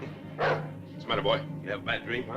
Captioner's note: dog barks